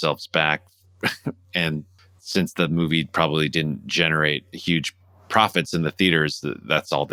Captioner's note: laughter